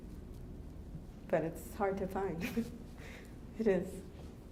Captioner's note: laughs